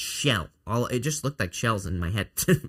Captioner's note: chuckles